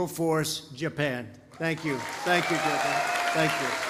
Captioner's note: applause